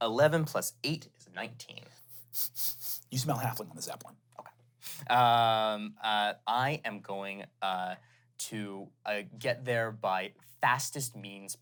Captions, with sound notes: - 11 plus eight is 19. - (sniffs) You smell halfling on the zeppelin. - Okay. I am going to get there by fastest means possible.